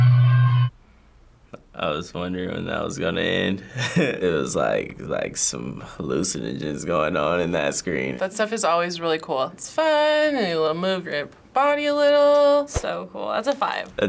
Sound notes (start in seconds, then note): 3.7 chuckles